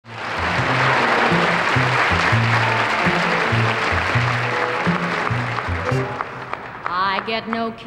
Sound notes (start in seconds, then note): 0.0 audience applauds; 3.7 light band music